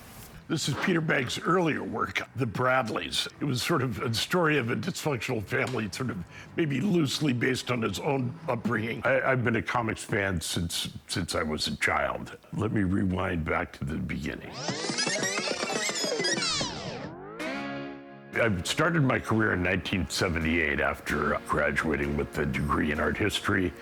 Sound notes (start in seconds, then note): 14.4 tape whirrs